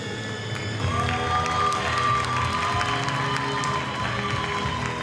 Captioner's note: audience applauding